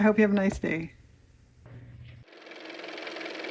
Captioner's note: car motor